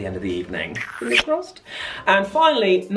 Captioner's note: loud smooching